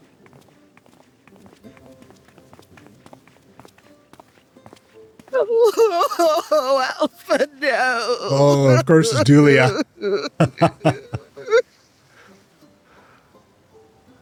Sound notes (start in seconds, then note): 0.0 gentle music; 5.3 crying; 12.3 laughing